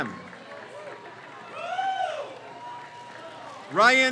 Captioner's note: crowd cheers